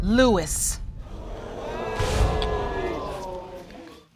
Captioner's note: audience murmuring